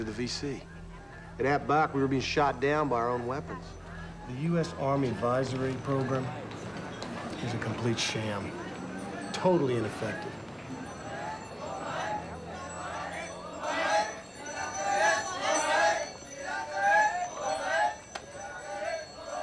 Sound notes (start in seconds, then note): 12.0 yelling